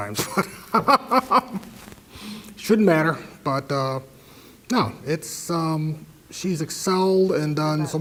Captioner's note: laugh